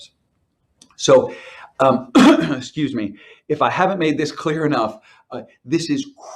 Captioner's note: coughs